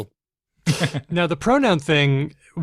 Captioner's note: laughs